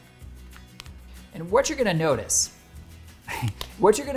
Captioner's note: laughing